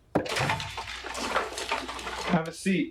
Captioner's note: door thudding; wheelchair clanking